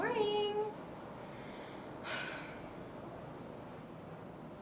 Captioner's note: sighs